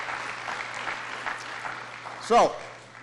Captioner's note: applause